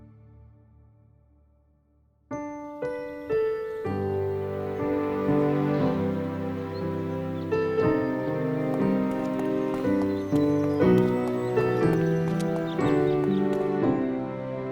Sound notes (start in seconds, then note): 2.5 birds chirping; 2.5 gentle music; 10.6 gentle music continues